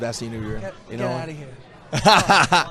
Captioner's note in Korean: ㅋㅋ